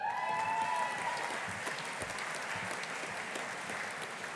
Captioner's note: audience applauding